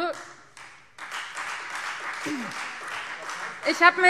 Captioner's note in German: Beifall Freie Demokraten